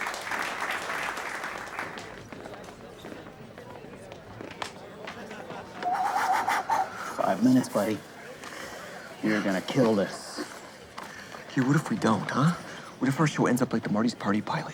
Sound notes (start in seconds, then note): 0.0 clapping; 5.8 blowing air rhythmically